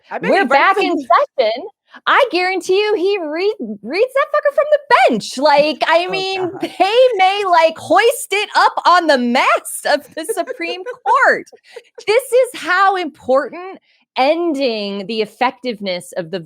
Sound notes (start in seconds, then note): 9.8 laughs